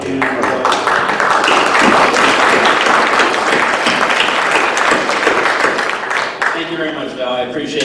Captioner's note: applause